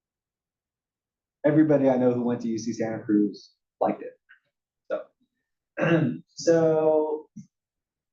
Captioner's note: cough